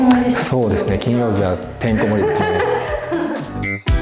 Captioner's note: laughs